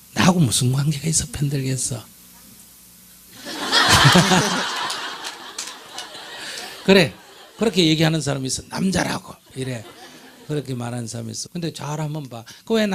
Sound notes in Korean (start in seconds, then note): 3.4 청중 웃음